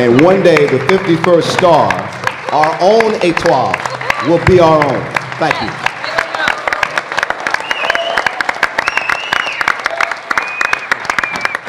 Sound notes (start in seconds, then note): 4.4 cheers and applause